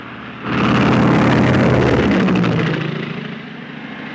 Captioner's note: airplanes roaring